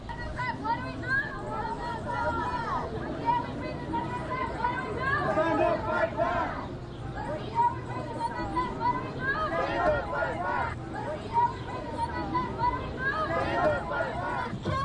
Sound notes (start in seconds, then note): 2.7 protest chanting